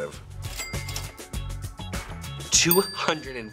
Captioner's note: cash register dings